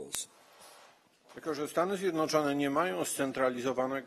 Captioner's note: speaking polish